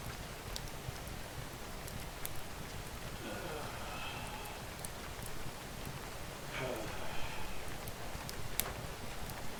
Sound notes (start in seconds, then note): 3.2 deep sigh; 6.5 another deep sigh